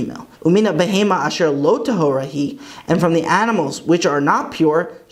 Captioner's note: Hebrew